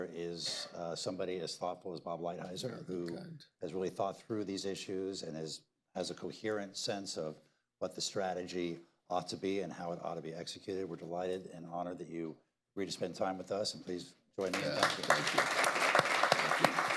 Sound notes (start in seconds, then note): 14.4 applause